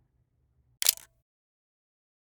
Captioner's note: camera click